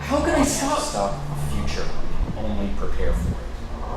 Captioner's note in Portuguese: interrompendo